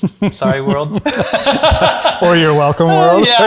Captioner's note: chuckles